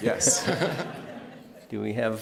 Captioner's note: laughter